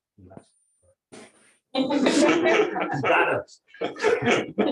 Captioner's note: audience laughs